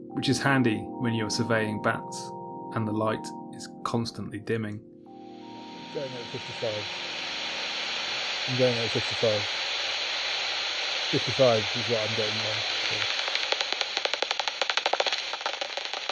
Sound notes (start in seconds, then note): 5.9 hissing static noise fade in, voice saying 'going in at 55. I'm going in at 55'